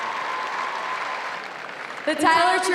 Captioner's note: applause